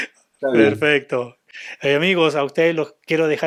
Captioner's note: laughs